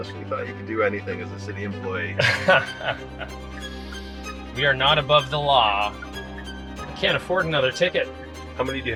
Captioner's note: laughing